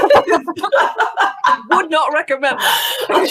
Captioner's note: laughing